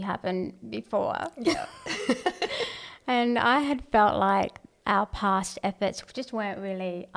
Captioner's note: laugh